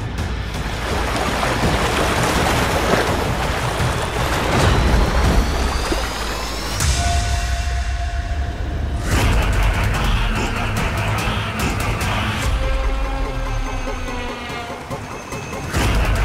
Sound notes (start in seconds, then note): 0.5 water gushing